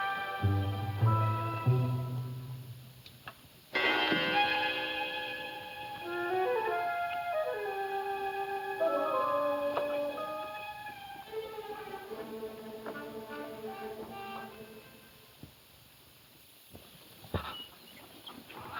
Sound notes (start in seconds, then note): 3.5 clock chimes; 6.2 slow suspenseful music